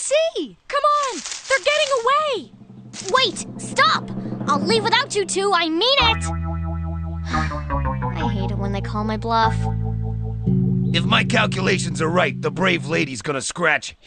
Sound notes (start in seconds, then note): none